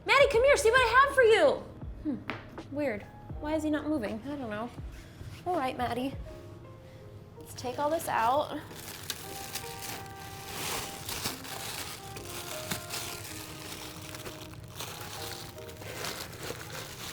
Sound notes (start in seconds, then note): 9.3 packaging rustling; 9.3 relaxed music